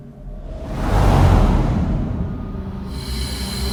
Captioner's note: wind whooshes